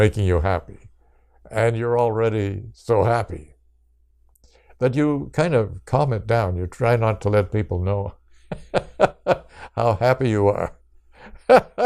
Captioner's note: laughs